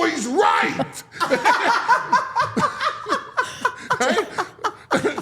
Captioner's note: all laughing